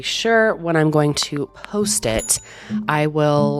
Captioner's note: bell dings